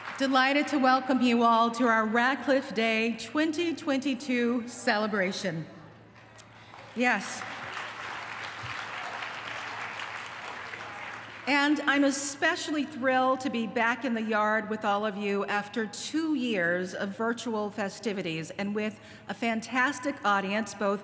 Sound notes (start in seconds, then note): 6.2 applause